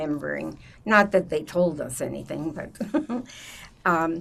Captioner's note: laughing